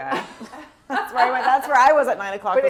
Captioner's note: chuckles